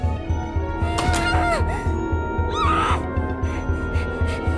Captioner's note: groans, screams through teeth